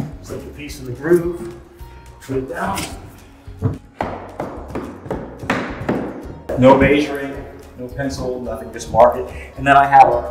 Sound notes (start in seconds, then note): 3.6 hammer banging